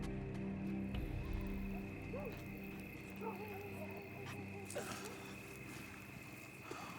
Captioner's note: crickets chirping